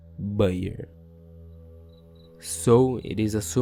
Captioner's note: pausa